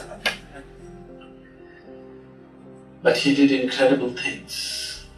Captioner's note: meditators Laugh